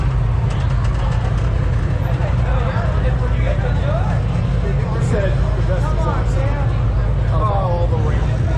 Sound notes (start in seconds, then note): 3.0 crowd chattering; 4.5 engine revving